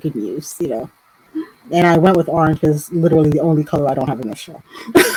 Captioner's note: laughter